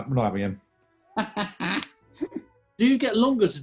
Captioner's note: laughing